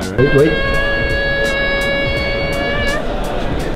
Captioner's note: squealing; chill out music